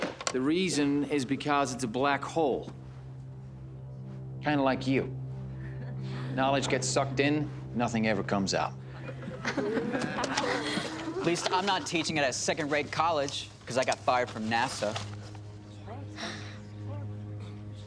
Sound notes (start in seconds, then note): 5.6 chuckling; 8.9 chuckling